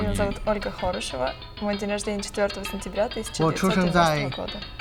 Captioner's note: student speaking Spanish; student speaking Russian; student speaking Mandarin